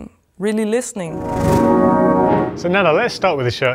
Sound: musical whoosh

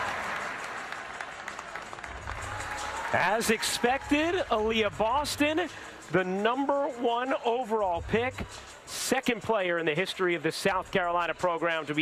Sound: applause

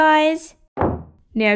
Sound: door slam

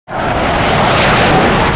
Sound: jet taking off

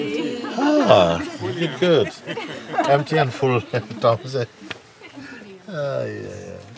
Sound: laughter

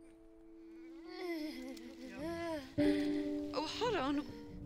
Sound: woman groaning

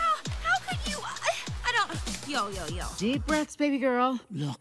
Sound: stammers

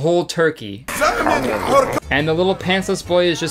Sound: man chewing loudly

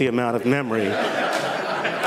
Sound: laughter

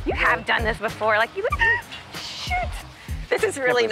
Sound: gasps

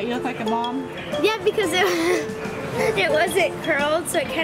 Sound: laughs

